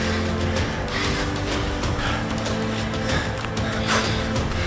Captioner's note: both breathing heavily